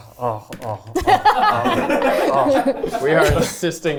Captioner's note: everyone laughing